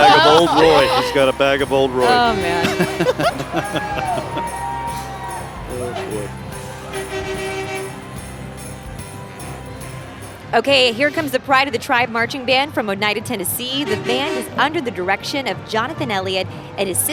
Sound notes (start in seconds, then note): 2.2 chuckling; 5.8 rv honking; 9.2 holiday music